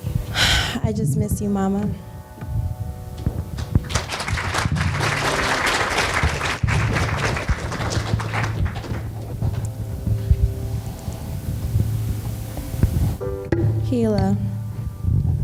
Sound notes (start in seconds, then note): 0.3 sighs; 3.5 applause; 14.0 somber music